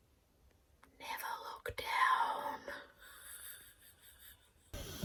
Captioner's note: whispers dramatically; cackles quietly